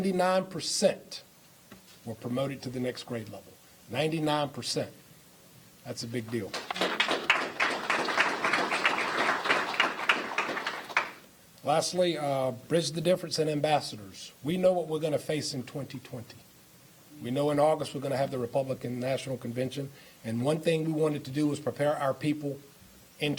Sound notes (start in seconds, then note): 9.1 applause